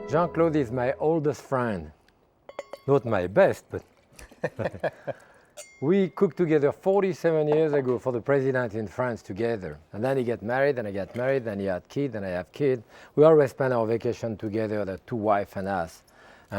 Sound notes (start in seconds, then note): 2.4 glass clinking; 3.4 wine sloshing; 4.2 both laughing